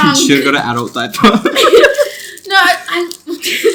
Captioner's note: everyone laughs